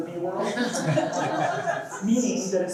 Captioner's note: laughter